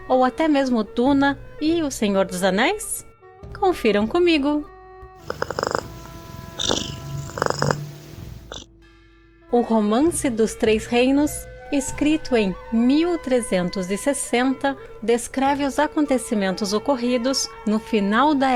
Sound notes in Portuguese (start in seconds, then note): 6.9 ronrom